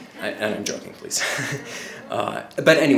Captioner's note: laughs